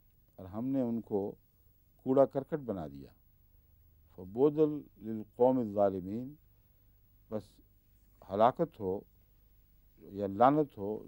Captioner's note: Arabic; Arabic